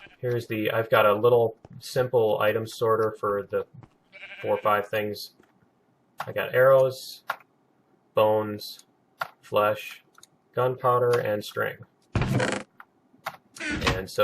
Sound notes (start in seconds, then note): 12.1 chest closing; 12.2 chest opening